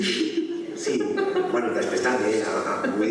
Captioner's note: laughter